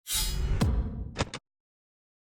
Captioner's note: sound effect